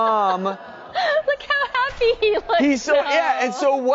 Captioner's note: laughing